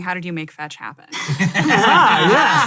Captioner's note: all laugh